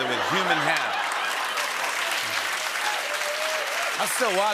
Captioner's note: applause